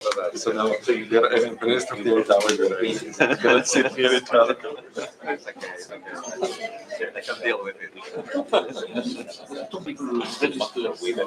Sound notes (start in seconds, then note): 0.0 indistinct chatter